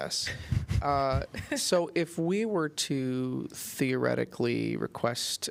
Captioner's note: laughter